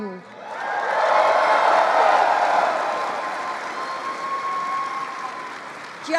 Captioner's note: applause